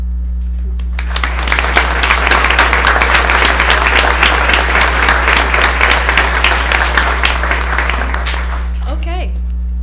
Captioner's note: applause